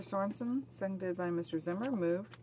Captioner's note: speaking French